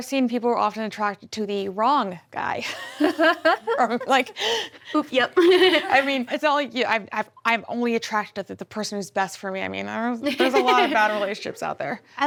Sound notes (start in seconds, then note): 3.0 chuckles; 5.2 laughs